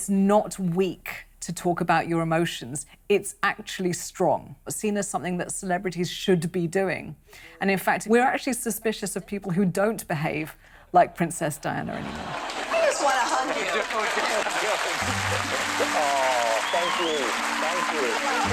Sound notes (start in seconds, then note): 12.0 crowd applauds